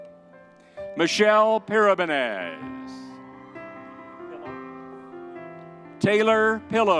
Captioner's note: crowd cheering